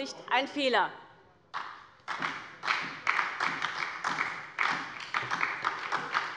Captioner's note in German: Beifall bei der SPD